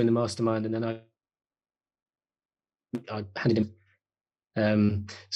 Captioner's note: call stuttering